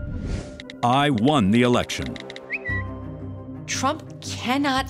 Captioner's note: tweet sends